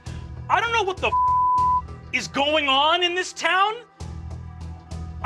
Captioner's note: beep